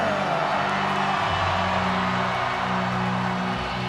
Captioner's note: audience cheering